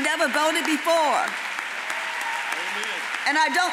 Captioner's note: audience applauds